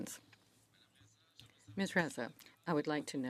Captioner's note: speaking French